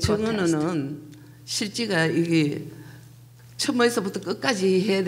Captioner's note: speaking foreign language